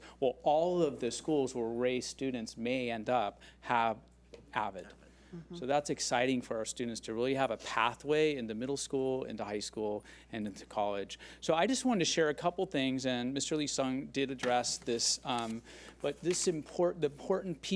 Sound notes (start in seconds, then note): none